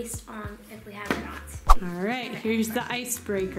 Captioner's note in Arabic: سووش